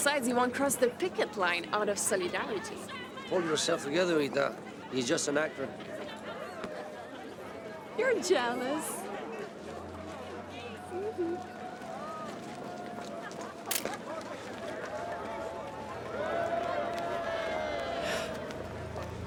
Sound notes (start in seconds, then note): 13.7 camera clicks; 16.2 people cheer